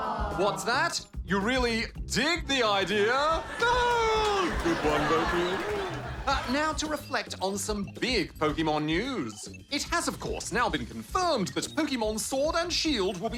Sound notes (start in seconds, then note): 3.0 laughter